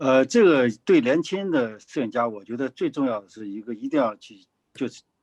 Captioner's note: speaking in foreign language